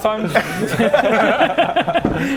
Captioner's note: unconvinced laughter